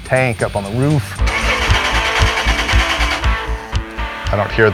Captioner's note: engine trying to turn over